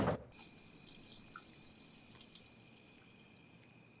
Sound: pee trinkling

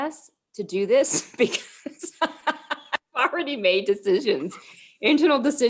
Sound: laughter

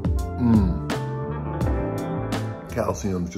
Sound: moaning

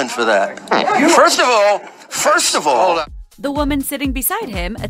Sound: fart noise

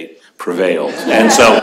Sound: laughter

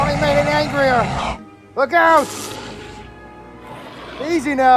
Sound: metriacanthosaurus Sounds; buzz Sounds

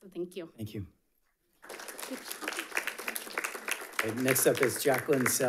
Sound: audience applauding

